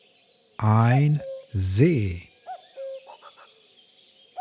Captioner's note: german